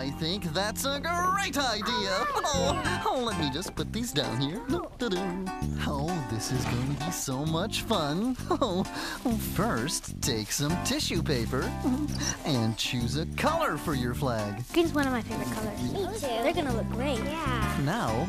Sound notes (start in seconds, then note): 4.2 humming